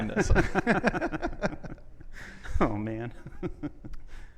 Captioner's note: both laughing